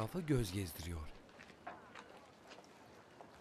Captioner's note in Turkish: Sokak ortam sesi